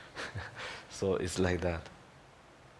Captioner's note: laughs